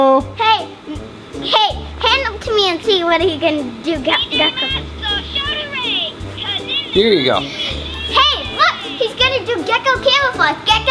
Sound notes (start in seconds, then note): 4.2 toy talking